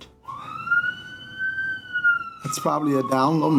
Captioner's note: sirens blaring